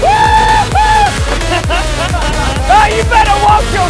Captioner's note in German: schreie